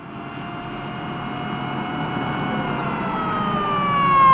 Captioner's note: sirens blaring